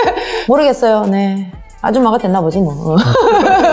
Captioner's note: laugh